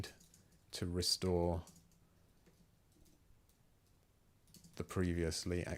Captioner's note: silence